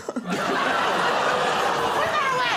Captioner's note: laughter